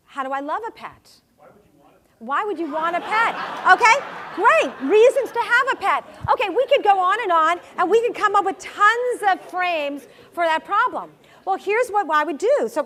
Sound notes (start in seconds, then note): 2.6 laugh